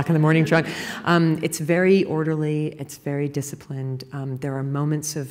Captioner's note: laughter